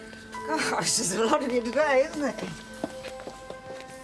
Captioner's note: laughs